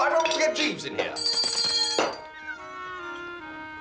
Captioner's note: rings the table bell